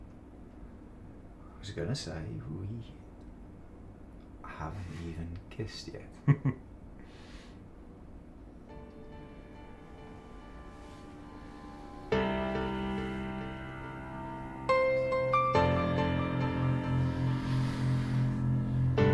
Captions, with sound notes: - I was going to say we haven't even kissed yet. (chuckling) (upbeat mellow music)